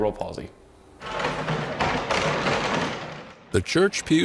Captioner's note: pew rattling